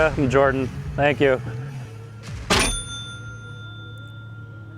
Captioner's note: doorbell